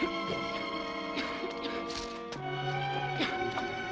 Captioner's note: Ruth coughing